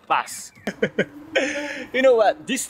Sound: laugh

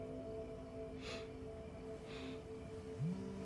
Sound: gasps softly

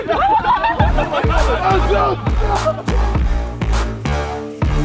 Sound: laughter; hip hop music

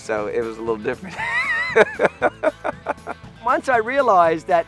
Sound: laughing

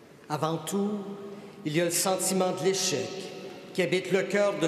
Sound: speaking French

